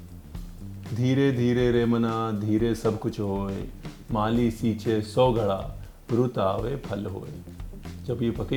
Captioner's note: Reciting couplets of Kabir Das